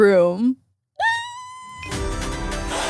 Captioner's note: squeals; upbeat electronic music